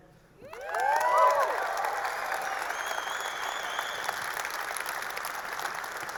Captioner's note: audience applauding; audience cheering